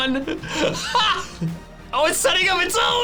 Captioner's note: laughs